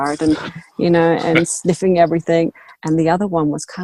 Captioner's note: laughs